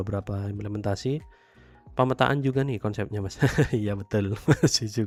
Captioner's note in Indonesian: tertawa